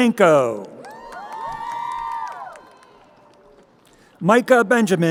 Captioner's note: crowd cheering